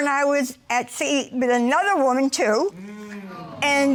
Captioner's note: audience sighing